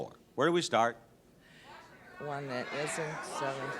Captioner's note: audience shouts incoherently